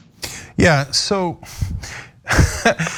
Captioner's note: laugh